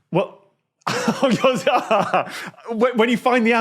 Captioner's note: laughs